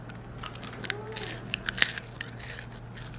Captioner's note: monster crunch